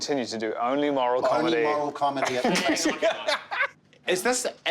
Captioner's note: laughs